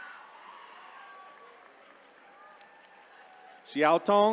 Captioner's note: attendees cheering